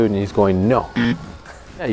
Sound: buzzer

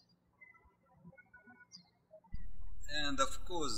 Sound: birds chirping

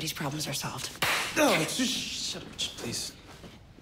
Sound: claps loudly

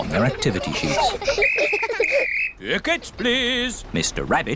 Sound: blows whistle

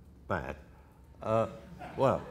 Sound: audience laughter

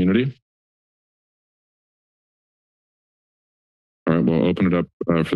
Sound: silence

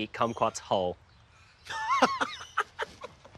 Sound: laughs

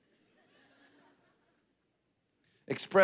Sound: congregation laughing

